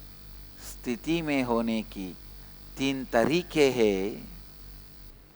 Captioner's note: hindi